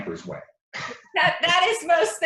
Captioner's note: chuckles